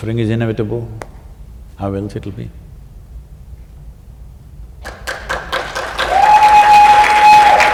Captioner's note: applause